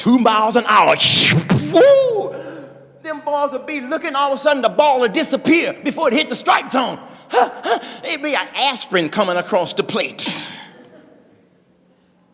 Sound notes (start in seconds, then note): 1.1 ball flying through air